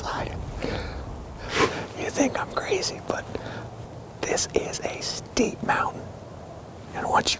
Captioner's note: whispering